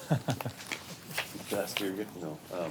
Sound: laughing

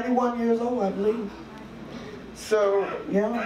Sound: audience murmurs

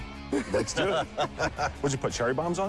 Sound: laughter

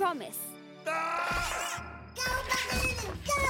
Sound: Tobor shouting

